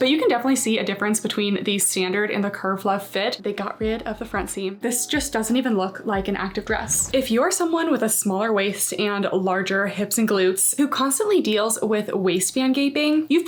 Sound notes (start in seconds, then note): 6.2 graphic whooshing